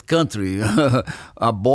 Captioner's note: laughs